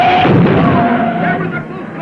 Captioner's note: car crashing